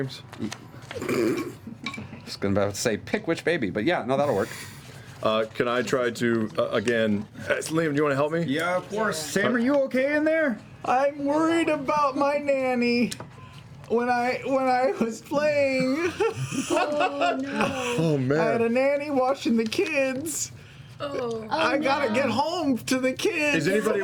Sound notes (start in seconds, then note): 10.8 shouting